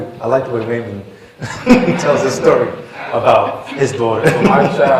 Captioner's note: laughter